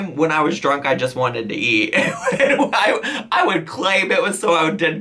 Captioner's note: laughs